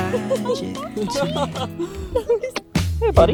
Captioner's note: laughing